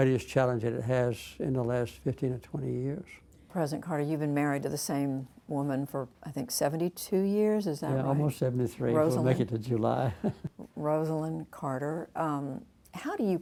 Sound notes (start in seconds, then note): 10.0 laughter